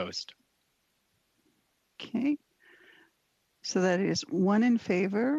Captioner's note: speaking French